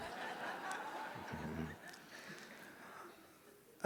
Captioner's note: laughter